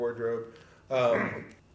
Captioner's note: courtesy giggle noise